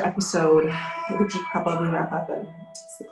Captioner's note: musical alarm resounding